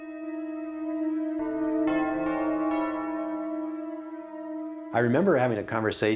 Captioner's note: church Bells